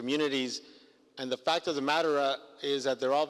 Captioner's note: foreign language